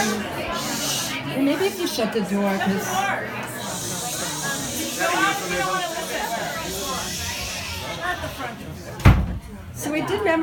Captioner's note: crowd quieting down